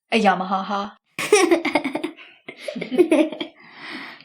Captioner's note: Esther and grace giggling